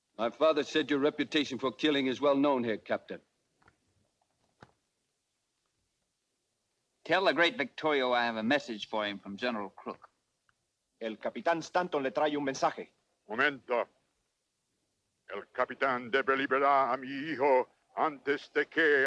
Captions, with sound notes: - My father said your reputation for killing is well known here, Captain. - Tell the great Victorio I have a message for him from General Crook. (Ramirez speaks Spanish) (Victorio speaks Spanish)